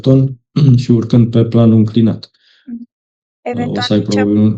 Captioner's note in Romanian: voce dreasă